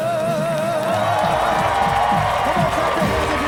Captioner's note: cheering